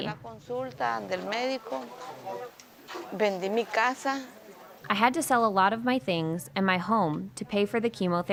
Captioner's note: speaking spanish